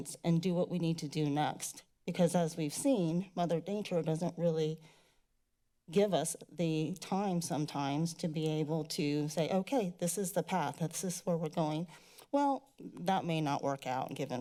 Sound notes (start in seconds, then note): none